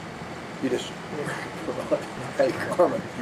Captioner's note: laughing